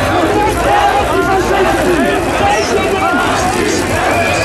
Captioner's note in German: ein Demonstrant ruft